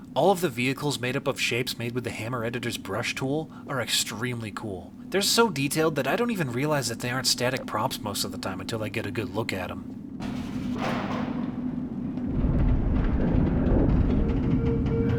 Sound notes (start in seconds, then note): 10.2 door opens; 12.1 deep rumble; 14.3 alarms blaring; 14.3 metal creaking